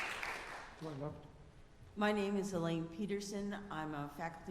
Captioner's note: applause